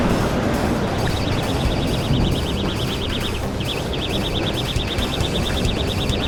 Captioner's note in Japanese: バイトアラームと、ドラグが出ている音が鳴り響く